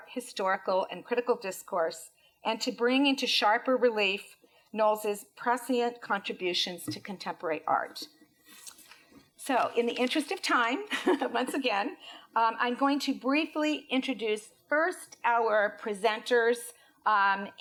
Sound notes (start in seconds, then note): 11.1 laughs